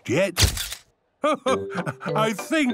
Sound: camera clicks

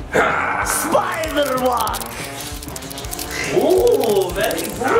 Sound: mummy growling; spider tapping

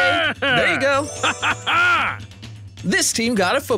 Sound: excited

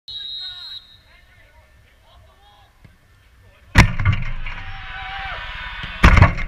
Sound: crowd noise throughout

